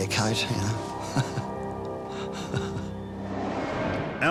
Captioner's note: chuckles